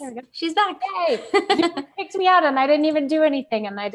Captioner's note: laughing